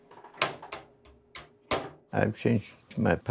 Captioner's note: oven door closing